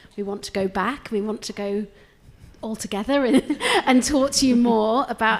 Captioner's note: laughs